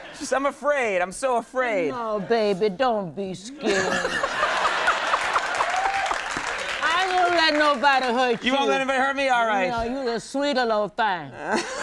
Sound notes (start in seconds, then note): 4.3 audience cheers and applauds